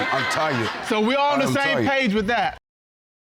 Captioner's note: audience laughing